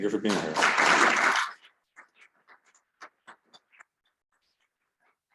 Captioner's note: attendees clapping